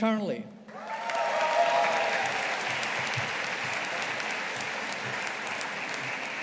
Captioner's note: audience applauding